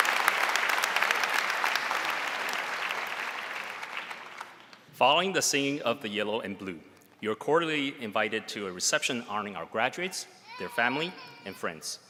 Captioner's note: applause